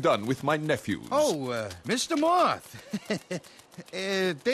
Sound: nervous giggle

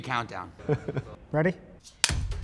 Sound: interviewee laughing

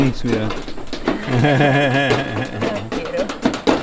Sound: laughs

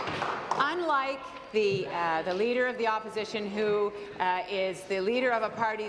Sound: applause

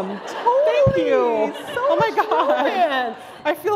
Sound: laughter

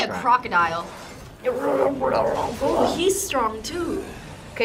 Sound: grumbles

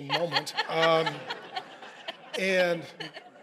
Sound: congregation laughing

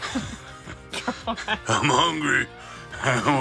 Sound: laughing

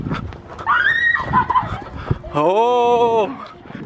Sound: screaming and laughing

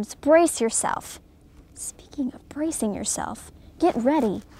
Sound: whispers to camera

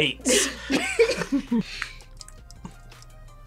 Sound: laughs

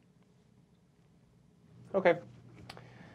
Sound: none

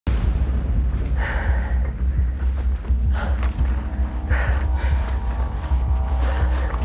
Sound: intense music; heavy breathing

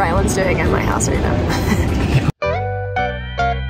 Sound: laughs; upbeat music

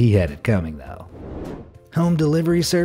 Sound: air whooshing

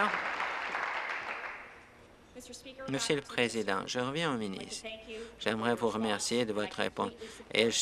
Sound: applause

